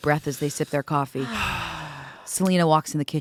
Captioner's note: group sighs